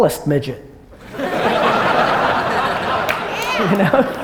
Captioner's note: audience laughter and applause